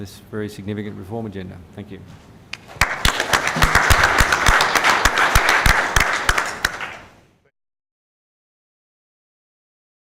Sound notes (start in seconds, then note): 4.3 clapping